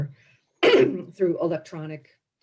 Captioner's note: coughs